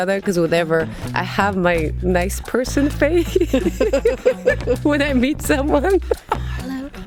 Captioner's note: laughs